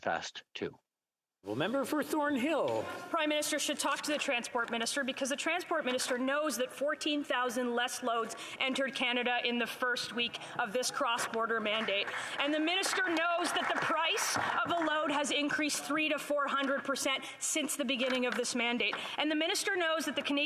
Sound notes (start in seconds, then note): 16.3 applause